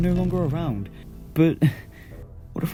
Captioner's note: chuckles